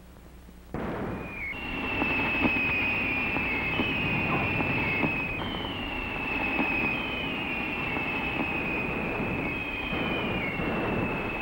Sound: incoming artillery whistling and shells exploding

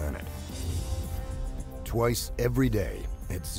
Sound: voiceover

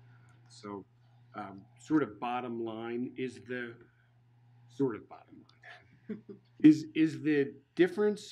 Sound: laughing

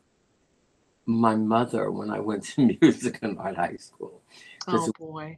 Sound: laughter

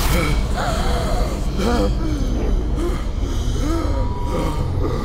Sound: engel gasps

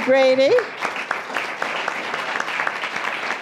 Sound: applause

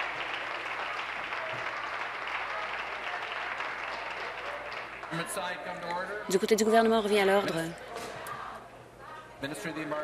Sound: applause

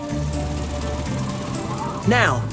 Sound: fan whirs

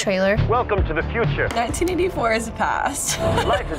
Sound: laughs

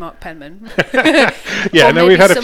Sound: both laugh

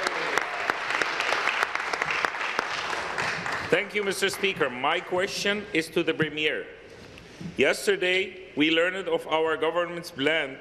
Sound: applause

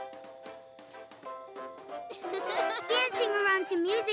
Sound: giggling

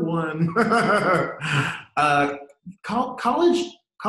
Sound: laughs

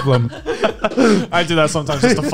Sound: group laughs

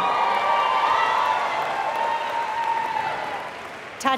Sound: applause

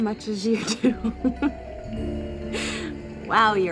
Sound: Phoebe giggles

